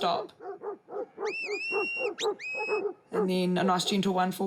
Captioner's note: dogs bark; whistles